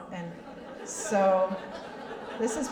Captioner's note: laughter